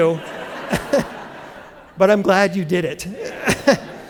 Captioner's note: laughter